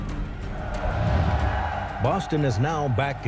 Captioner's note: crowd cheering